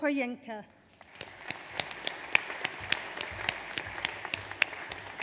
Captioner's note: audience applauds